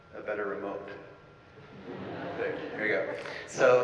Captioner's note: audience laughing